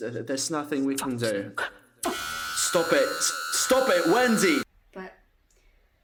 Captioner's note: A metallic screech